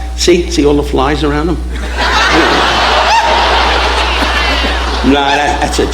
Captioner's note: audience laughing